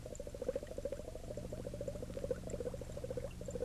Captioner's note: liquid bubbling